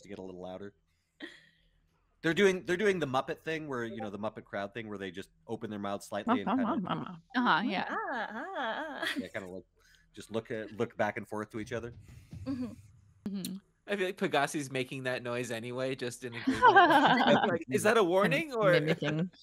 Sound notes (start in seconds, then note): 16.4 laughing